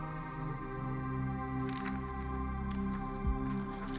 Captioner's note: papers rustling